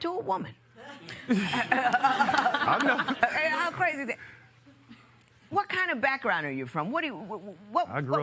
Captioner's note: laughter